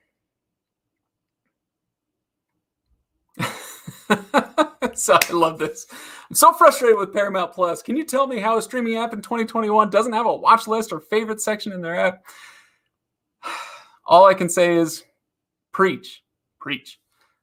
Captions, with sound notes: (laughs) So I love this. I'm so frustrated with Paramount Plus, can you tell me how a streaming app in 2021 doesn't have a watch list or favorite section in their app? All I can say is preach, preach.